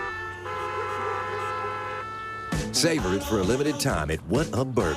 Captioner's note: cars honking